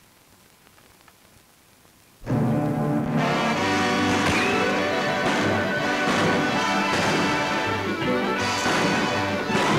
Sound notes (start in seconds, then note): 2.3 dramatic music; 3.1 guns bang